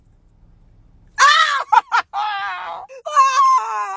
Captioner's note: anguished scream